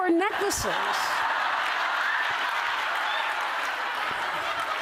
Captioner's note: laughter